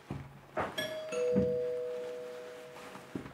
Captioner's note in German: Türklingel